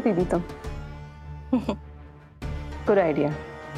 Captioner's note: laughs